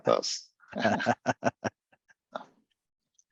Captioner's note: laughs